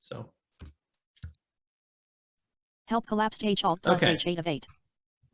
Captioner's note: mouse clicking